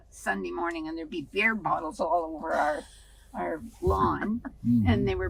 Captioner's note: laughing